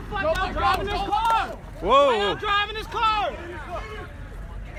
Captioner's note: confused shouting